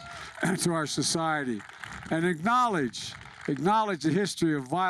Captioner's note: applause